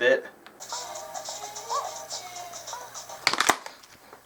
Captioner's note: moaning